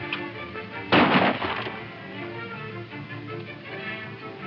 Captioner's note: gunshots